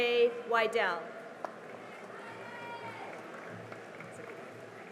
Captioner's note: cheering and applause